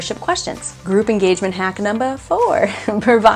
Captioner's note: laughing